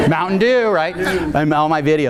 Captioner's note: audience laughing